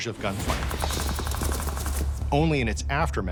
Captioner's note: guns firing